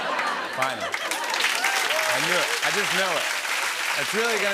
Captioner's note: laughter and applause